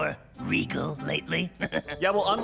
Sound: laughs

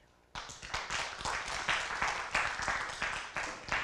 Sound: applause

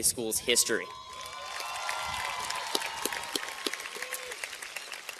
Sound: cheers and applause

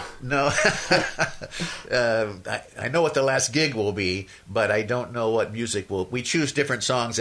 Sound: laughs

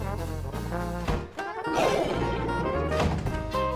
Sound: roars

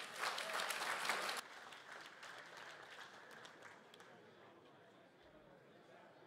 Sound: crowd applauds and converses

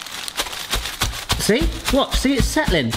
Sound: loud banging

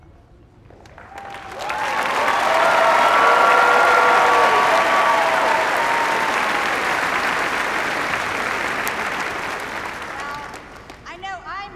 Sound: cheers and applause

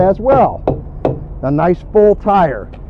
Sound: hollow thumping

